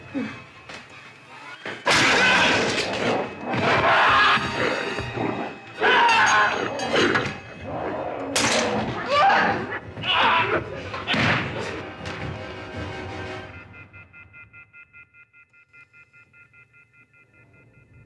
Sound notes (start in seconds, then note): 0.2 Larry grunts; 2.0 Donald roaring; 2.0 Larry yelling; 12.0 dramatic music; 13.2 phone buzzes